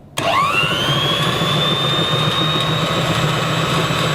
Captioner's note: mixer whirring